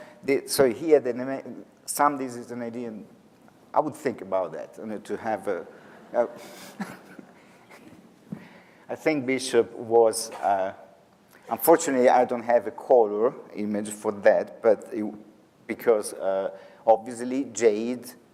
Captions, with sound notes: So he had (stammers) I would think about that only to have a-- (audience laughs) (laughs) I think Bishop was ... Unfortunately I don't have a color image for that, because obviously jade